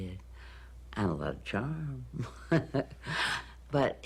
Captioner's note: chuckles